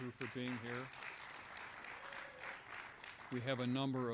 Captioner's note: applause